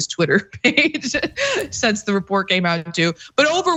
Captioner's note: laugh